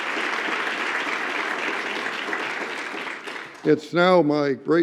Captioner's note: applause